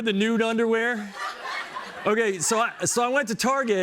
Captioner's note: laughter